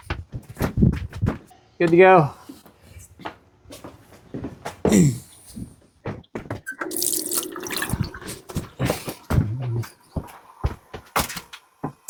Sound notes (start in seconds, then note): 6.6 kitchen sink sounds